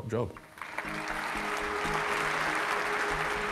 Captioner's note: clapping